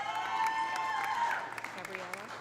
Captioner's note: audience cheering; audience applauding